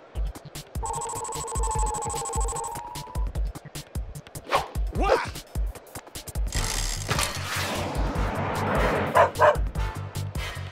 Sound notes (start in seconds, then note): 0.8 electronic pulsing; 9.1 dog barks